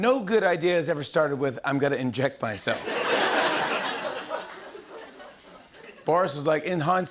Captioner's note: laughter